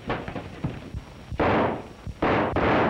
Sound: gunshots

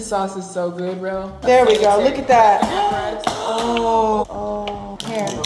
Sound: gasping

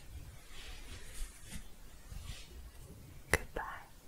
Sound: shuffling

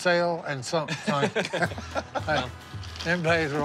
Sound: laughs

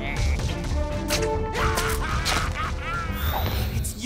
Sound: evil laugh

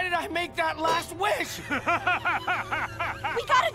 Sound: laughing

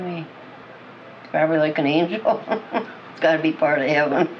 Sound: laughs

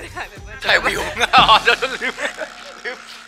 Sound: laugh

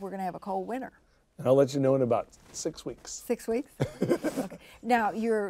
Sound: chuckles

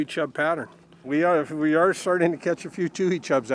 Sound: boat engine idling

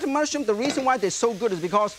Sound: pan clinks

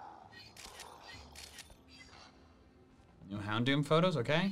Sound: photo snapping

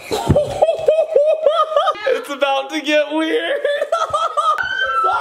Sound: cackling; shrieks

